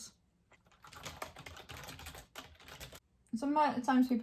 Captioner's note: keyboard clicking